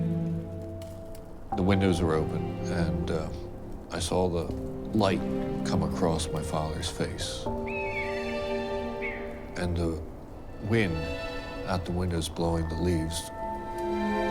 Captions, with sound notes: the windows were open and I saw the light come across my father's face (birds chirping) and the wind out the windows blowing the leaves."